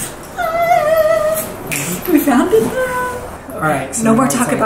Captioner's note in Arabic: يصرخ بهدوء وحماس